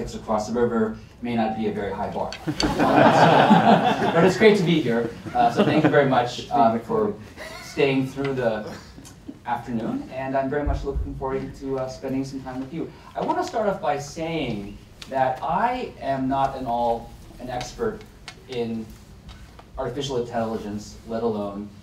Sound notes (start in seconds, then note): 2.4 laughter